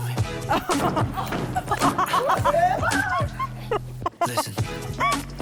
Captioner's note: foot stomping sounds